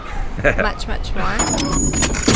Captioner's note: laughs